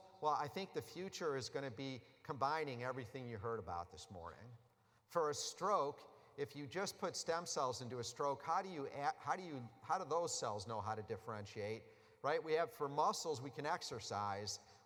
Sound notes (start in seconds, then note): none